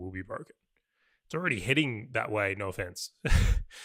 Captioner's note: laughs